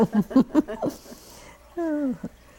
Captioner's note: laughter